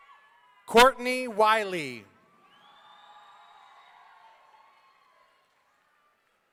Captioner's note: audience cheering